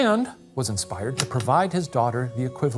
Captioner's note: projector clicking